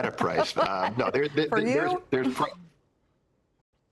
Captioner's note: laughter